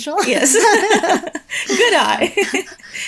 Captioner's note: chuckling